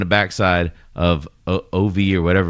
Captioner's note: uh